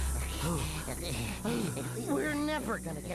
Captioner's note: both panting